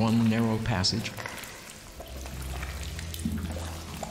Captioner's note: water dripping, clambering